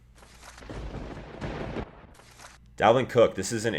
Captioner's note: thunder crash